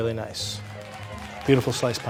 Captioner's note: audience clapping